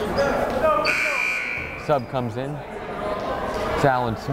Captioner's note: chattering; buzzer blaring